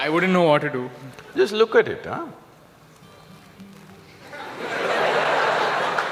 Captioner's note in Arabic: ضحك